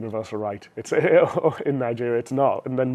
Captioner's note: laughs